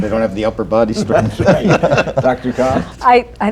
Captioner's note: laughter